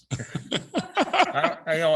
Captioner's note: board members laughs